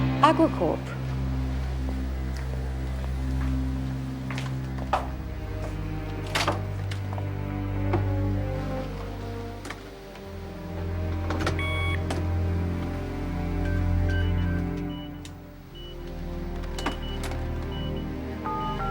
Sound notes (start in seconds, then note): 11.4 phone dialing; 11.5 machine beeping